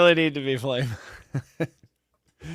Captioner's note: laughs